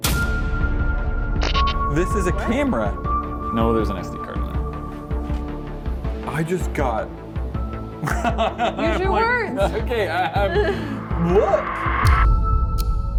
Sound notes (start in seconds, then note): 8.0 nervous laughter; 10.3 nervous stuttering